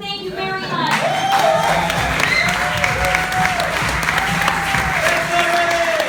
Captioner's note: laughter, cheers